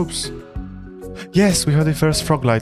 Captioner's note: gasp